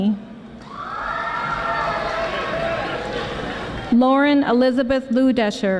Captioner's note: audience applauding